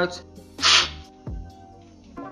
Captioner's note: slurping